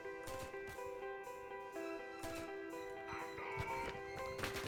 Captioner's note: distant shouting in German; shots firing